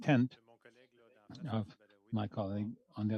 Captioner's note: speaking French